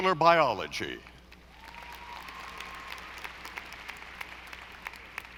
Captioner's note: audience applauding